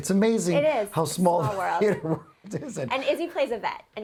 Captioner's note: laughs